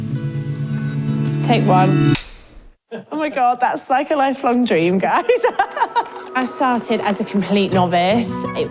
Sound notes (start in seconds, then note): 5.1 laughing